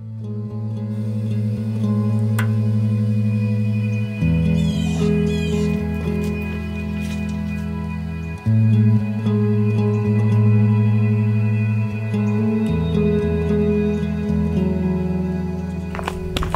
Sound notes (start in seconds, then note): 0.3 gentle music; 4.5 bird cawing